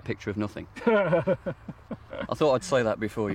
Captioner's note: laughing